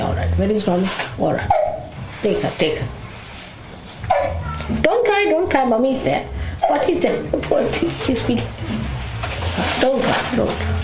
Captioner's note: a baby is crying